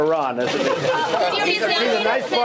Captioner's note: laughter